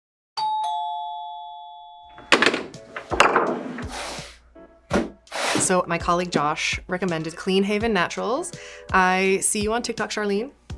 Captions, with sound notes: (doorbell rings) (objects clattering) (box shuffling) - So, my colleague, Josh, recommended Clean Haven Naturals. I see you on TikTok, Charlene.